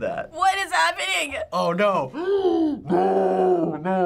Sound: gasps

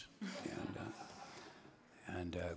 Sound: attendees laughing

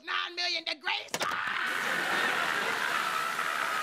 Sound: screaming

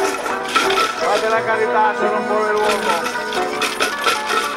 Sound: speaks Italian; coins jangling

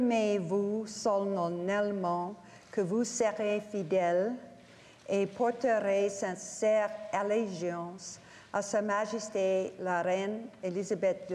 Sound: speaking French

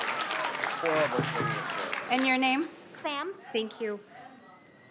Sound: applause

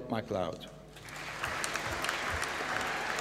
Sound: applause

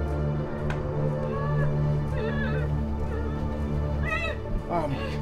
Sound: woman whimpering

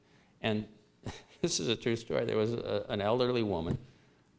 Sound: chuckle

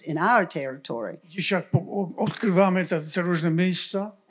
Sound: foreign language

